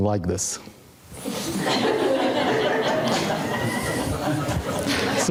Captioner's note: audience laughing